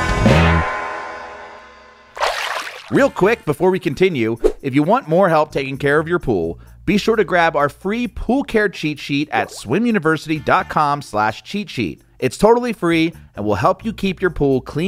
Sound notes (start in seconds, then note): 2.1 water splashing